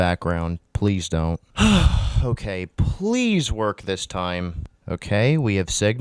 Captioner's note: exhausted sigh